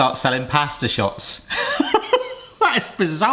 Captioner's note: laughs